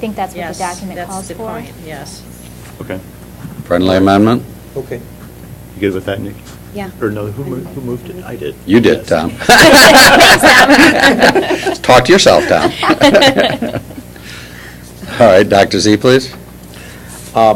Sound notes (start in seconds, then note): 9.3 laughter